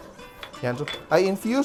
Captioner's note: clang